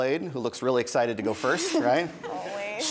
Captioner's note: chuckles